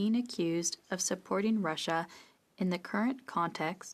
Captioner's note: speaking French